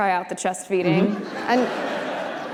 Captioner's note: audience laughter